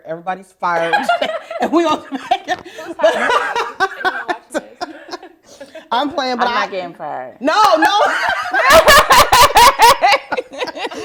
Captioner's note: laughs